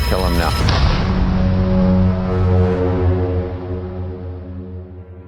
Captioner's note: gun blast